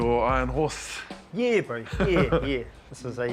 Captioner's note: chuckles